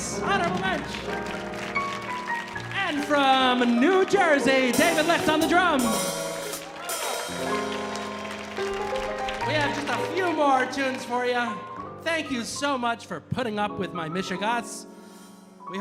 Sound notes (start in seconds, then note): 0.0 audience applauding; 6.6 audience cheering